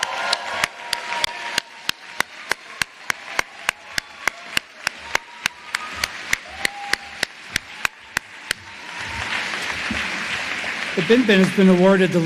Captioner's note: cheers and applause